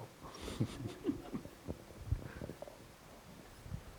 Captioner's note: Kore-eda laughs